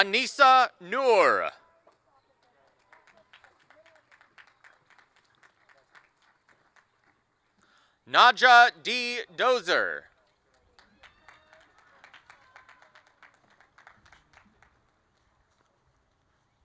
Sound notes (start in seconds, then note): 0.0 applause; 3.9 applause and cheering; 16.4 applause